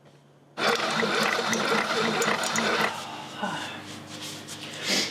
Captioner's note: coffee dripping